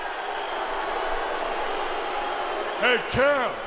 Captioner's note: crowd boos